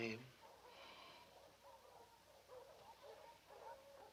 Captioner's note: dogs barking